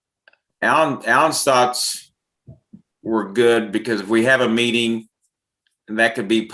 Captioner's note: speaking faintly